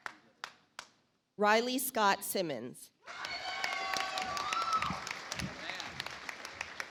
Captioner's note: audience applauds